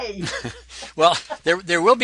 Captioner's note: laughs